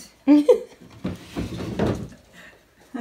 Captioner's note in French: rires